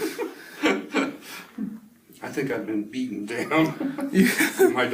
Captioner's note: both laugh